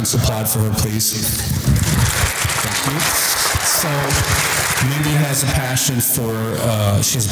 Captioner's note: audience applause